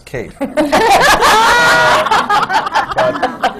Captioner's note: laughter